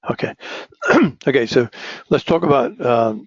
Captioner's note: cough